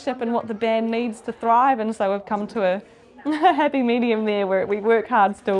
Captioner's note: chuckles